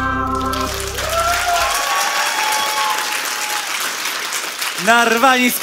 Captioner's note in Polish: oklaski publiczności